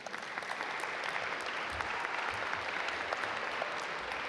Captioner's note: audience applaud